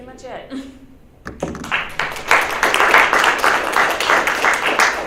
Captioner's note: audience claps